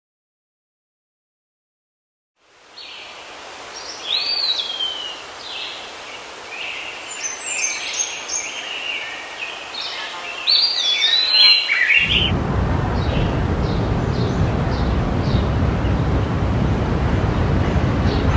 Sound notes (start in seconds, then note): 3.8 birds Chirping; 5.8 air swooshing on Bamboo trees